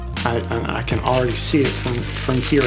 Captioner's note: cutting sounds